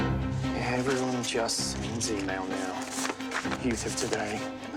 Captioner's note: mutters